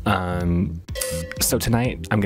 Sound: ding

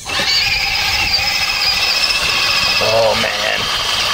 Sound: tires squealing

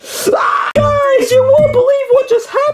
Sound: Luigi yells

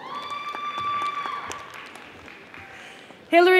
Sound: audience applauding

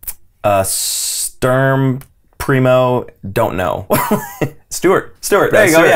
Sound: laughs

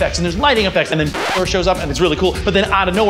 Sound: screeching

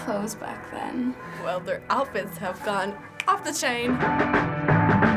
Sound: snaps fingers

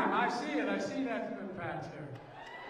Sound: crowd noise

